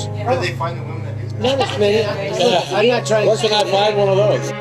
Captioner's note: laughter